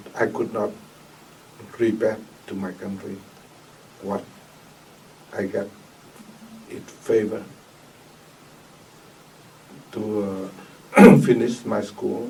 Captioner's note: clears throat